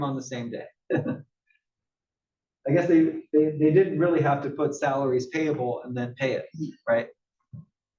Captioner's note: laugh